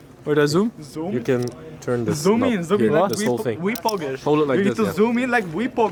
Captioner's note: group chatter overlapping